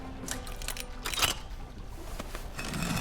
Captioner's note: lock clicks; scraping noise, click